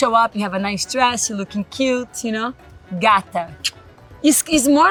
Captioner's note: speaks Portuguese; smacks